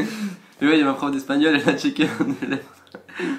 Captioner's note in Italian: ridere !